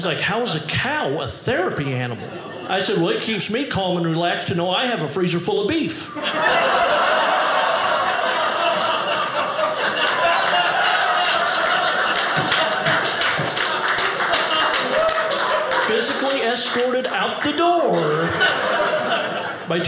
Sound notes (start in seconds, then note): 6.1 audience laughing